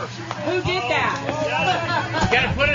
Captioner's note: laugh